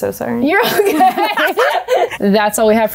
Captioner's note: people laughing